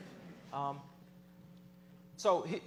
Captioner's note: laughter